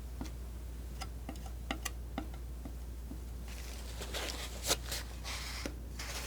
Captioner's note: tapping